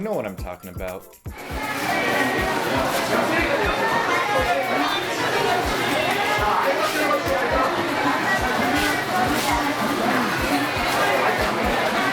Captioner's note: sounds of the supermarket